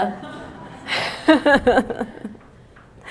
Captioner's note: laughing